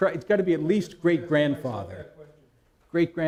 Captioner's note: someone speaking off mic